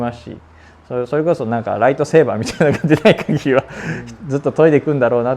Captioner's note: laugh